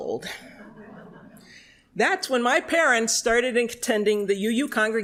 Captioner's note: laughter